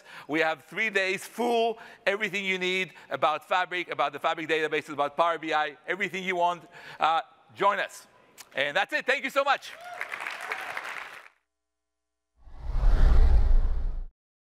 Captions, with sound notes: We have three days full, everything you need about Fabric, about the Fabric Database, about Power BI, everything you want, join us. And that's it, thank you so much. [APPLAUSE]